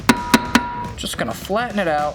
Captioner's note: vice scraping; hammer clanging